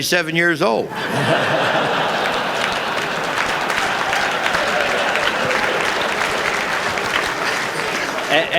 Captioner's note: laughter